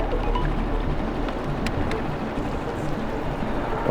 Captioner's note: sonar dinging